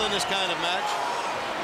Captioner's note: crowd cheering